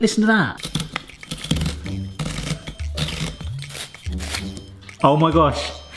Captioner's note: playful music; drill grinding